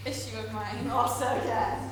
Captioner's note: audience laughter